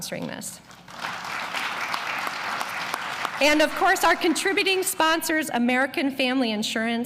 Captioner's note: applause